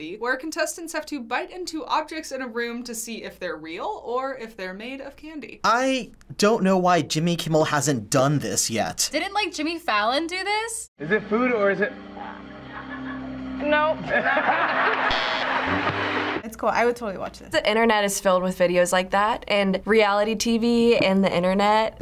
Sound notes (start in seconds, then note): 14.0 all laugh; 15.0 buzzer